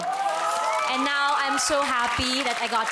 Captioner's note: cheering